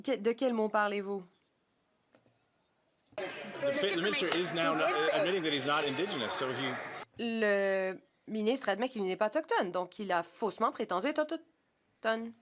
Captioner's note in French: voix de l'interprète